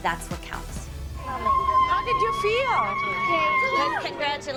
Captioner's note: shouting